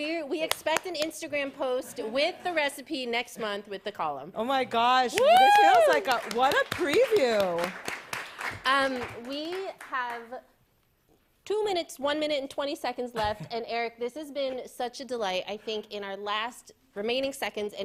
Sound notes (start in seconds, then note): 5.1 claps; 5.1 applause